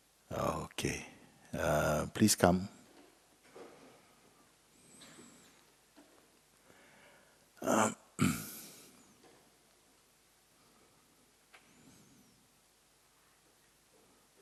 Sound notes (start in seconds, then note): 6.1 silence